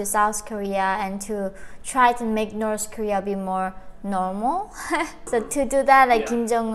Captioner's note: laughs